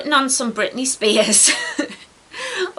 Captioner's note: giggles